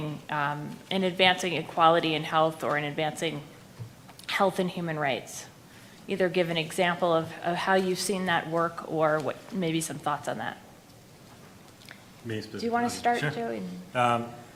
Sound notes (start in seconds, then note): none